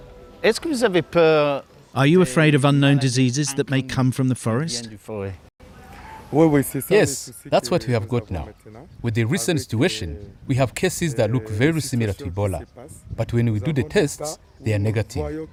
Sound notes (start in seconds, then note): 0.9 speaking french; 5.0 speaking french; 6.2 non-english speech